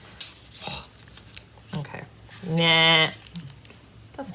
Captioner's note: bleating